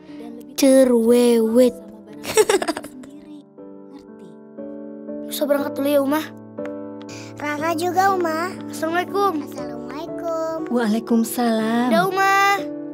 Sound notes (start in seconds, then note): 2.3 laughing